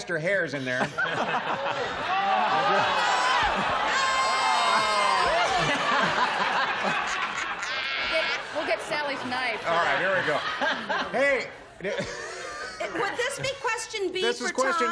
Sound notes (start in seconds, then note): 4.5 laughs; 5.4 jeering; 8.3 laughs; 11.8 laughs